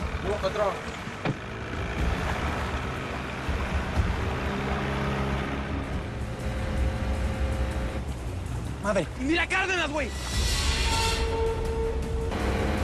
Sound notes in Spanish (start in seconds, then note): 3.2 Sonidos de motores; 11.6 Motor de la lancha